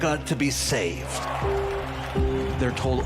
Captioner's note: audience cheers